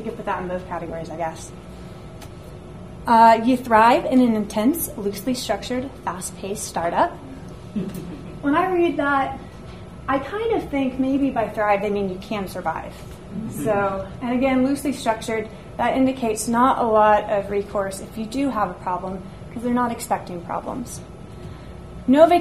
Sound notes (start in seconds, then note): 13.6 audience laughs